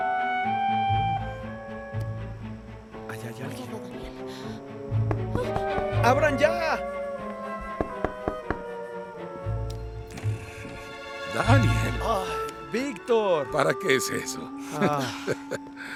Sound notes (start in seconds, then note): 10.1 Gruñe; 14.6 Víctor ríe